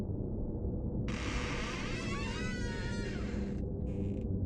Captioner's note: door creaking